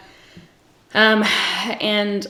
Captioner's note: sighs